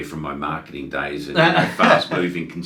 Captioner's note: laughs